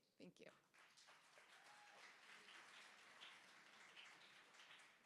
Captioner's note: applause